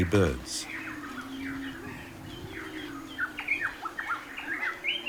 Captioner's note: birds chirping